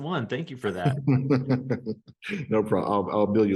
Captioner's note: laughs